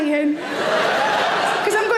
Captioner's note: audience laughs